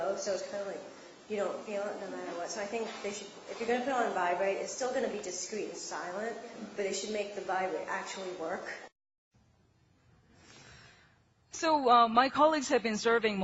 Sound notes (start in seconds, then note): none